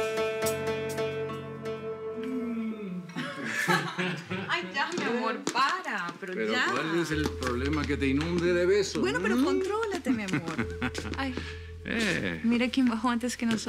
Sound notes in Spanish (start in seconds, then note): 3.1 Risas; 10.0 Risas